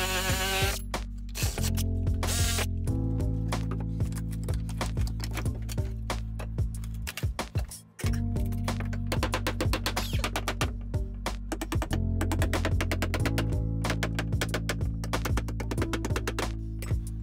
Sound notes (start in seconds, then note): 9.6 hammer taps; 12.1 relaxed music continues